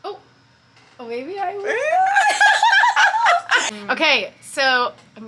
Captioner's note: both women laughing